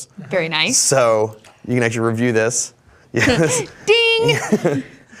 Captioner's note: chuckles